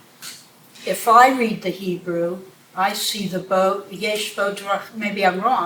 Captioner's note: non-english